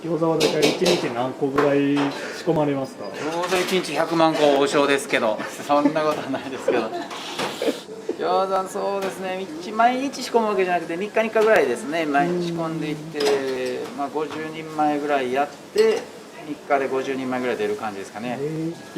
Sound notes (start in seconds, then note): 5.3 laughs